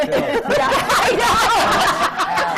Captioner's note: laughter